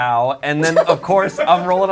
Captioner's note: laughs